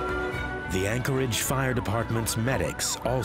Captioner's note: sirens wailing